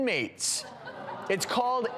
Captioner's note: audience gasps and laughs